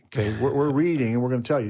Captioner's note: speaker chuckles